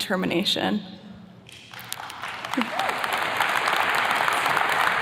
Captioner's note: attendees clapping